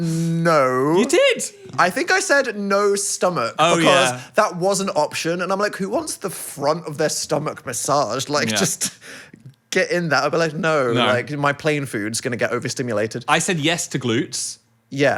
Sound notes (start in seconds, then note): none